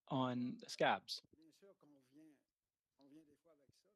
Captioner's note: speaking French